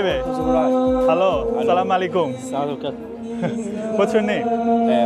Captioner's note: Arabic